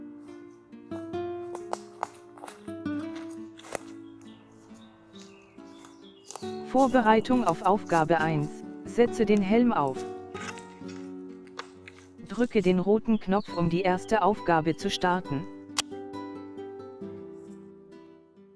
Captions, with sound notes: Preparation for task 1. Put on the helmet. Press the red button to start the first task. [Click]